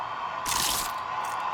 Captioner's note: Crunch